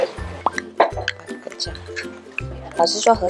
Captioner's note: stirring